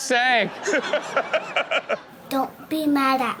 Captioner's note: Steelo laughs